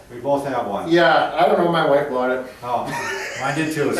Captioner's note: laughs